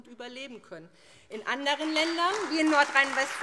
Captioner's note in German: Beifall SPD und Freie Demokraten